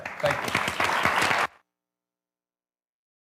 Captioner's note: clapping